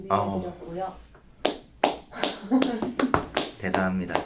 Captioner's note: applause